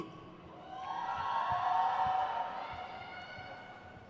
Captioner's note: crowd cheers